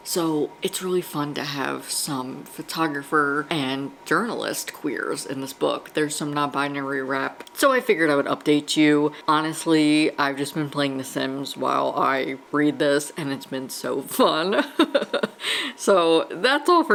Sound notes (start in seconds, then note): 14.6 laughs